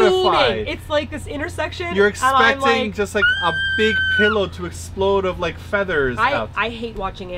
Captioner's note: screeches